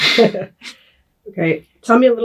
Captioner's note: both laugh